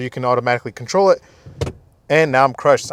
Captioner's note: seat clicking